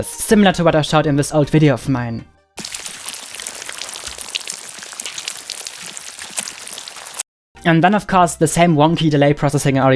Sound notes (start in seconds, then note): 2.6 digital water sounds